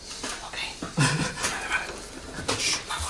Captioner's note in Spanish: risas